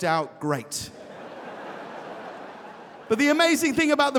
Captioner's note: audience laughing